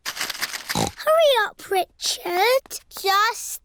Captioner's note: snorts